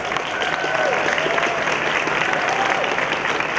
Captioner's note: cheering